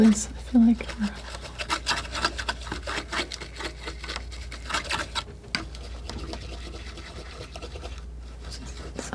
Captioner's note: scraping